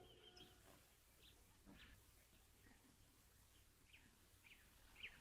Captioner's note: birds chirping